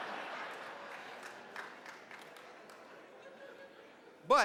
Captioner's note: laughter